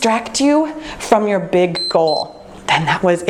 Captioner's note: timer beeps